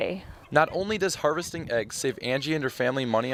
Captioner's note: voiceover